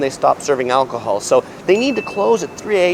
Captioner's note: bell dings